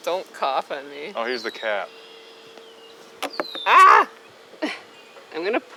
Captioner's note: screams